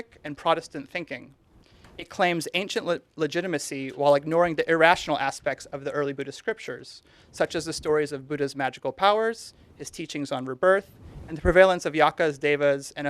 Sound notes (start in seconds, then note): none